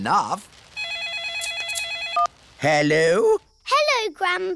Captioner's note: phone rings